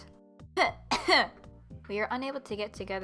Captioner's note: cough cough